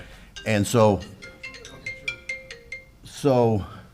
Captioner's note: phone rings